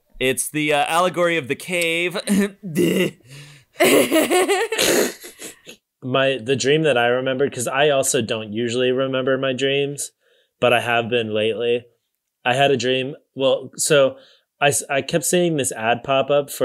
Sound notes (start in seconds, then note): 3.8 fake coughs